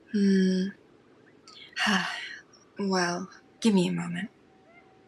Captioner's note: sigh